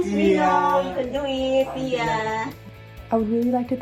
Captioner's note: speaking in foreign language